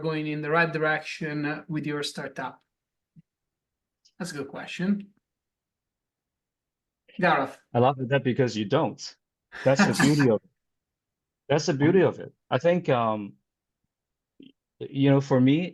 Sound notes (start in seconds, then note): 9.6 laughs